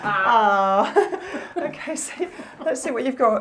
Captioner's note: laughter